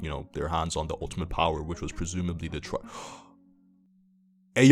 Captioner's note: gasp